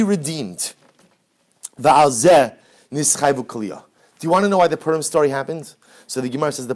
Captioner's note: Hebrew